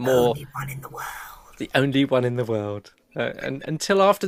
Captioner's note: whispered